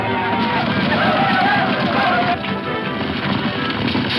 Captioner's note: Indians yell